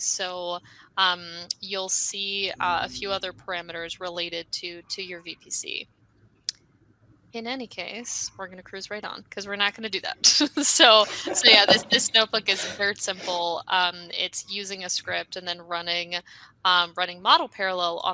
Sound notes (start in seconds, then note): 10.8 laughing